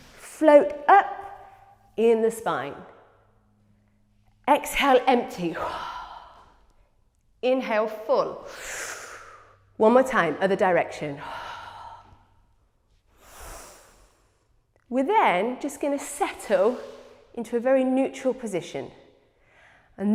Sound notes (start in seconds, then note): 13.0 exhales; 13.1 inhales